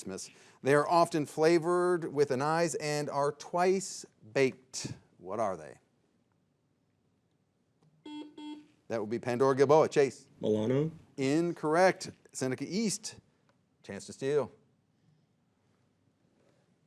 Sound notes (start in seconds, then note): 8.0 buzzer dings